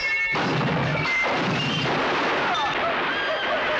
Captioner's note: guns firing